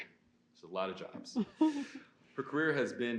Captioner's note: guest laughs